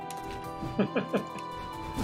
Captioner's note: laughs